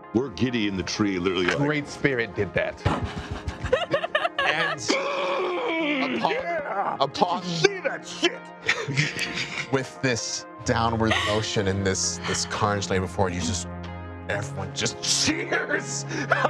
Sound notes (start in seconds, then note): 2.8 laughing; 3.1 groaning; 15.3 laughs